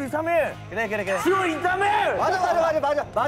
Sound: shouting

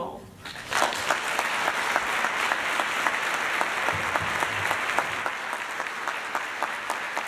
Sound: applause

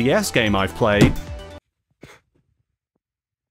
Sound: off-screen bang

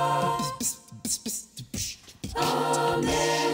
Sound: beatboxing

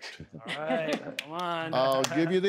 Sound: chuckling

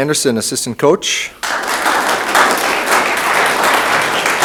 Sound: room applauds

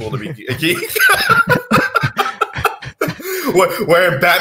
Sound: both laugh

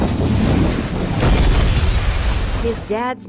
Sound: explosion

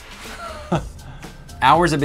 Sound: chuckles

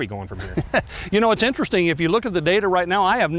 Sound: laughs

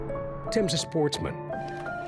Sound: voiceover

